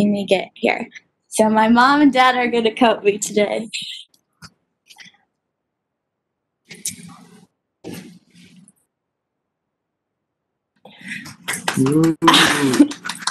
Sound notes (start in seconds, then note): 11.3 clapping